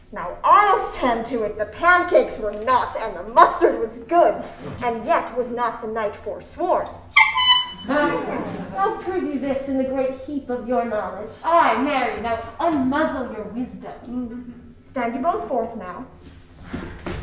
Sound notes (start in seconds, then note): 6.9 tooting